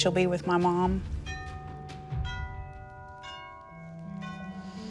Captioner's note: doorbell ringing; deep breath